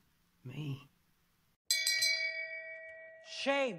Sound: bell ringing

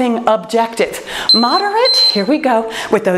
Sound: timer beeping

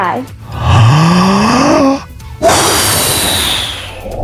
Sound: wind blowing noise

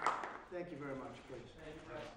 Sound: applause

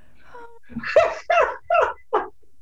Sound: laughter

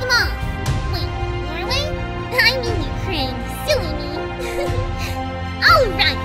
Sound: giggles

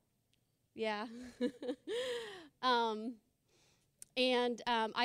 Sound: laughing

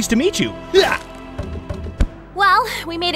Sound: pickax thudding

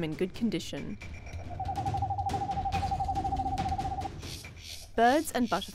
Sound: animal sounds

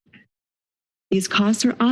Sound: silence

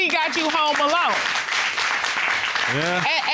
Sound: applause

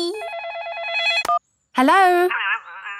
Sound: phone ringing

